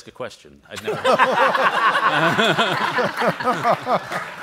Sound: all laugh; audience applauds

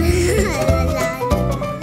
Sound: chuckles

